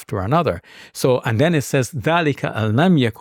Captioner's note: speaking in foreign language